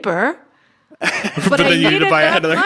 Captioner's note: laughs